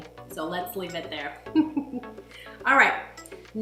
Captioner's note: chuckles